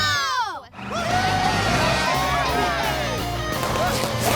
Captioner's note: cheering